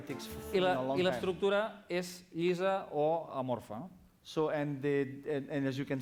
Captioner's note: non-english speech